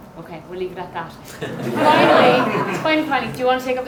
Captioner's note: audience laughing